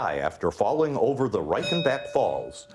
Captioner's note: bell ringing